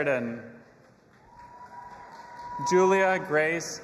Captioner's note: audience applauding and cheering